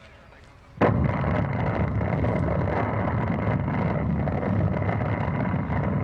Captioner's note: explosion